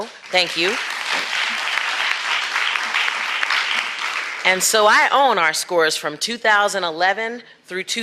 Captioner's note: applause